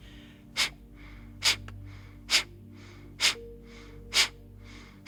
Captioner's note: exhaling rapidly